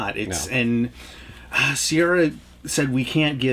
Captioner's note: sighs